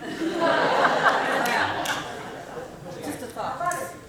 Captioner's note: laughing